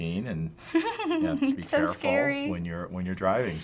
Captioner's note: laughing